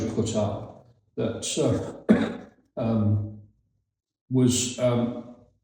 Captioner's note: coughs